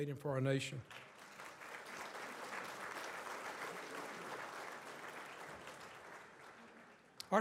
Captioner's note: audience applauds